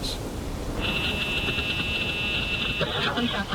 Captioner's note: radio static